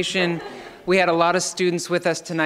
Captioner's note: laughing